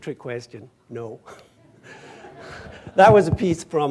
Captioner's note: laughter